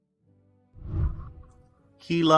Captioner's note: whooshing